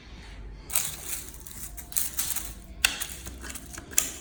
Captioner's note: deep scratching